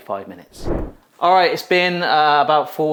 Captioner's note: screen wipe whooshes